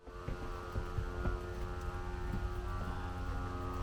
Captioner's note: dolly buzzing